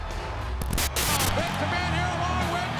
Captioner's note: screen buzzing